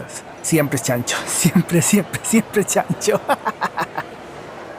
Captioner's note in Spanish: risas